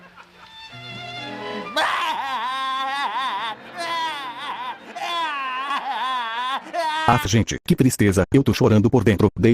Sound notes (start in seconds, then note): 1.6 crying